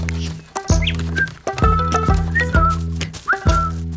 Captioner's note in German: pfeift fröhlich